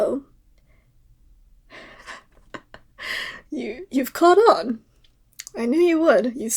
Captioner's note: laugh